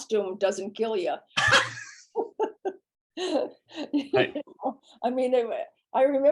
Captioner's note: laughter